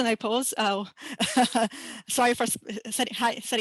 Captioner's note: laughing